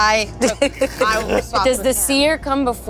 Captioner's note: laughs; chuckles